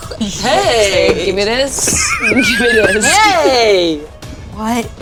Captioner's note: players chuckling